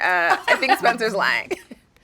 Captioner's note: laughing; chuckling